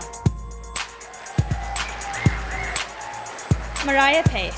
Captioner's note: sound of applause and cheering from the audience